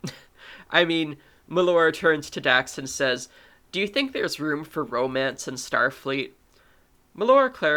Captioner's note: ahem